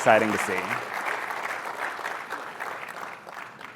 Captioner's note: applause